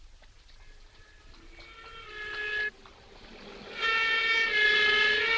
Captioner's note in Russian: сирена